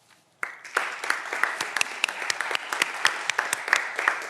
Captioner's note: audience applause